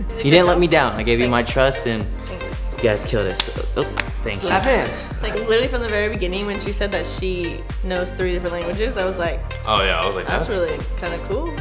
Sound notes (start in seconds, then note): 3.9 high-fives clapping